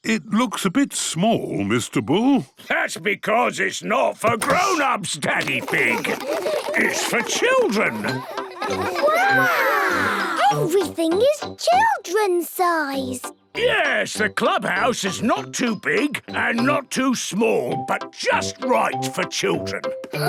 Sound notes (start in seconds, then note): 5.4 children laughing